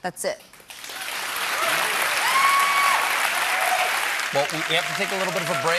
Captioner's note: cheers and applause